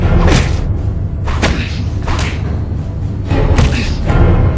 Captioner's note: thudding blows